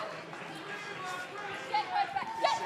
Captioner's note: cheers and applause